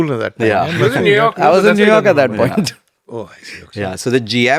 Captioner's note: laughs